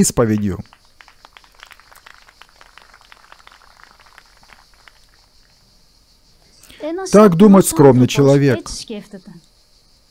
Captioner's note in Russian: Аплодисменты